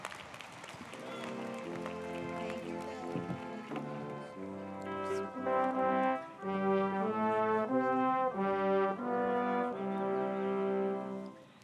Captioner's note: applause